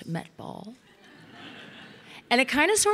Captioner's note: audience laughing